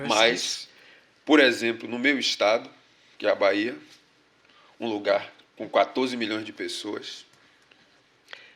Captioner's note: speaking portuguese